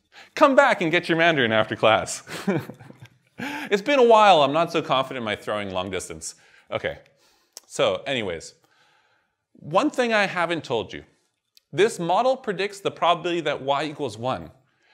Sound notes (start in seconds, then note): 2.2 chuckles